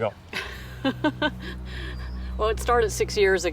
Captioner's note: somber music; laughing; tense cymbals music